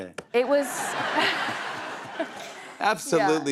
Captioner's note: laughter